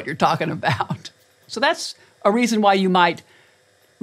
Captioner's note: laugh